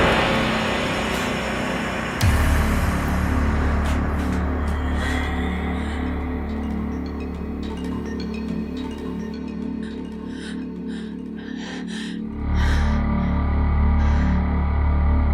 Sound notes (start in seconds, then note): 10.4 frightened breathing